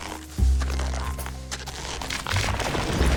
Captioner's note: footsteps in snow; ice rumbles